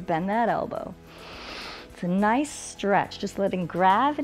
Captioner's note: inhales